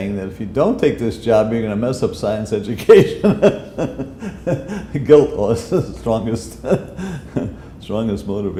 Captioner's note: chuckle